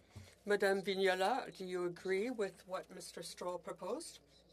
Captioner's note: speaking French